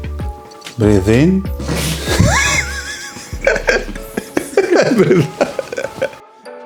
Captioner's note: laughing